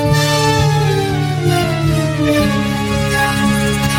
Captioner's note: panicked whimpering